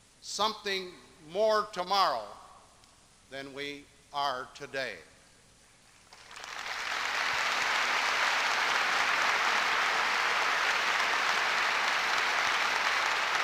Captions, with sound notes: something more tomorrow than we are today. [applause]